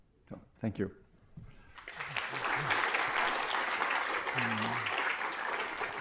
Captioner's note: applause